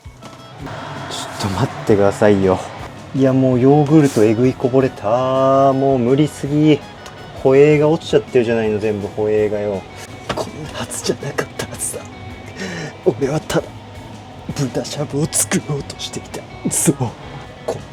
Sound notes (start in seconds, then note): 0.6 flustered laugh